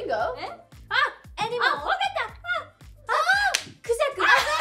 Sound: speaking Korean

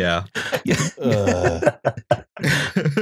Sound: laughter

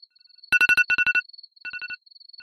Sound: alarm ringing

